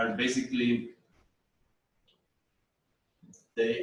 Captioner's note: pause